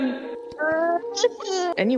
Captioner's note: crying; music Fades Out